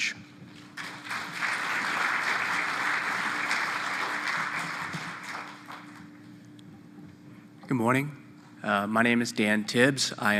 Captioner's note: applause